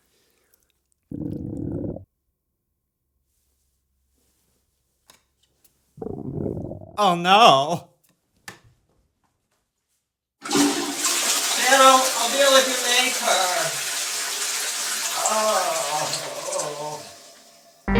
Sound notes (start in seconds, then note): 1.0 stomach gurgle; 6.0 stomach gurgle; 10.4 toilet flushing